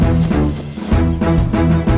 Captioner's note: heroic Music; barks Excitedly